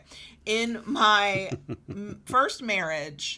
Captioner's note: chuckles